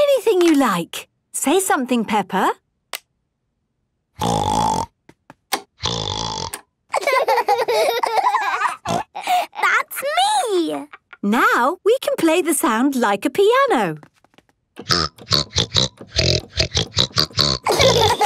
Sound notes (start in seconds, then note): 4.4 snorting; 6.9 laughter; 7.3 snorting; 14.8 snorting version of theme song